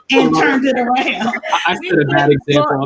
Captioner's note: laughs